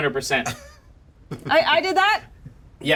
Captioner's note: chuckles